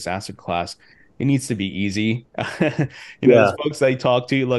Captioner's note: laughs